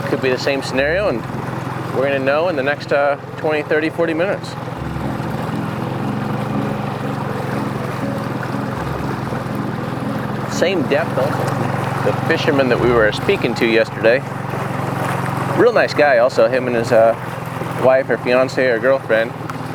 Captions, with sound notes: Could be the same scenario and we're going to know in the next 20, 30, 40 minutes. (tense music) (boat engine purring) Same depth though. The fishermen that we were speaking to yesterday, real nice guy. Also him and his wife or fiance or girlfriend